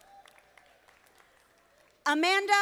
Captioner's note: audience applauding